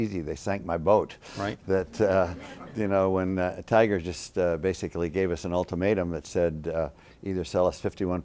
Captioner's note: laughter